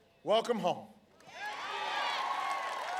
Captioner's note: applause